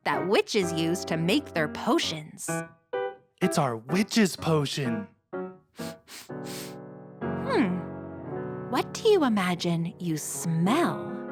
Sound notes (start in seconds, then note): 5.8 sniffs